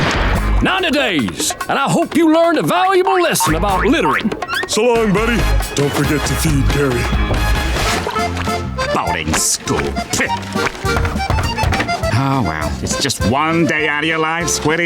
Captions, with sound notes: 90 days. I hope you learned a valuable lesson about littering. So long, buddy. Don't forget to feed Gary. Boating school. [knocking] Oh, well, it's just one day out of your life, Squiddy.